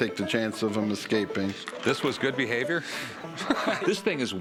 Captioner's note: laughter